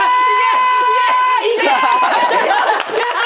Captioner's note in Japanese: 笑い